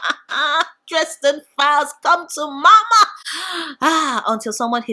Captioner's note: sigh